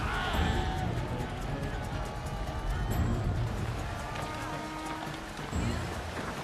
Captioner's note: yelling